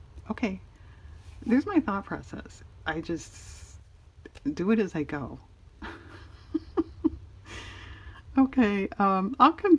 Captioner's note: laughs